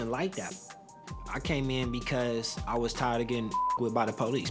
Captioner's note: beep